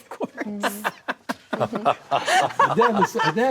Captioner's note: laughs